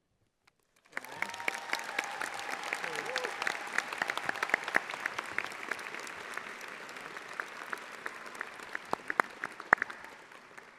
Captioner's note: audience applauding